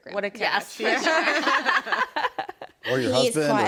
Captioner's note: ladies laughing